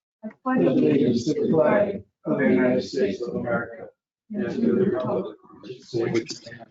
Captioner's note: group pledging